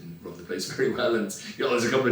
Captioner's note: laughs